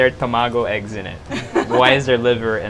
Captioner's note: chuckles